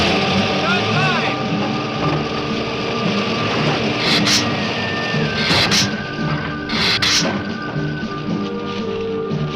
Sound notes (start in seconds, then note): 3.9 lizard hissing